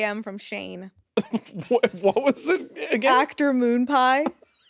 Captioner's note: chuckles